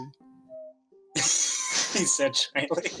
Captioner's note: laugh